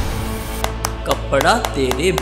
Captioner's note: clapping